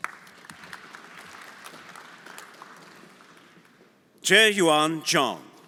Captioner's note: everyone applauding